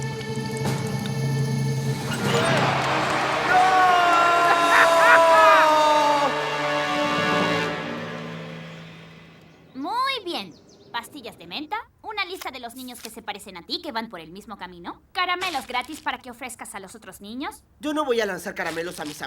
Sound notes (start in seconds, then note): 4.9 laughing